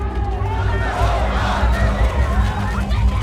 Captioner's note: sloganeering